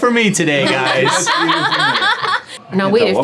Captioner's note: ladies laughing